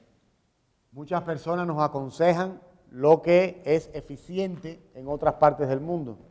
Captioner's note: speaking in Spanish